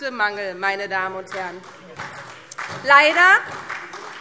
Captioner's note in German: Beifall SPD